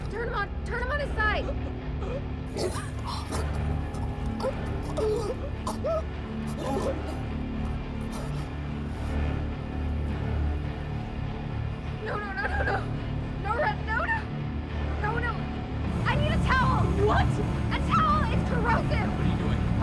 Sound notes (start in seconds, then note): 2.8 Rudy chokes and splutters